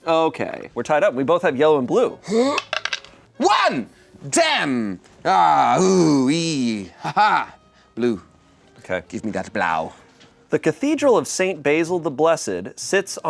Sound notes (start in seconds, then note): 2.2 gasps